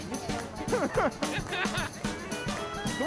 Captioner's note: laughing